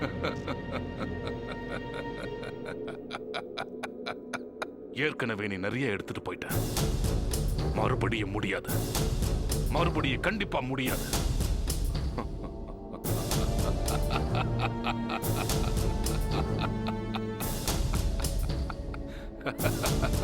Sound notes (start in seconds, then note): 0.0 Bishop Laughs; 14.8 Bishop Laughs